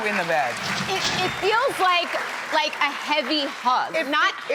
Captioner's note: audience applauds